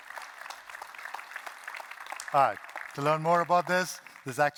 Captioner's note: applause